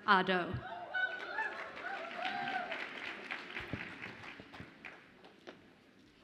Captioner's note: audience applauds and cheers